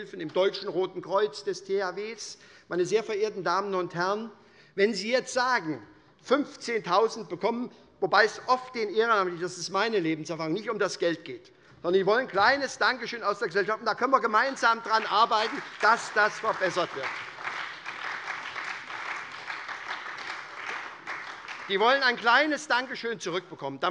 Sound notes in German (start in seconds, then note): 17.3 Beifall bei der SPD und bei Abgeordneten der LINKEN